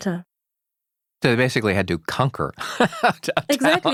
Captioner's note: laughs